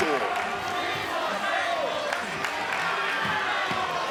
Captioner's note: crowd jeering